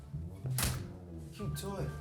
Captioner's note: door closes